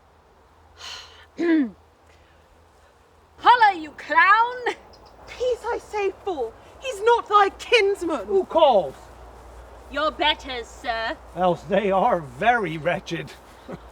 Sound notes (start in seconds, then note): 1.3 clears throat